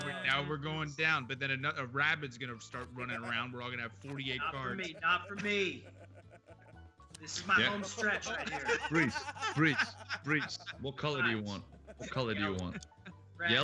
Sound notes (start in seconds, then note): 8.9 laugh